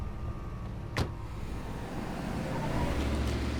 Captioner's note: car door thuds; car whooshing